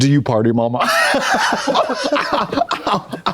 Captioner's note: Blonde Women har-har